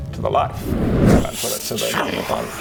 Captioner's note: whoosh